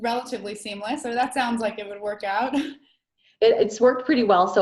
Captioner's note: laughs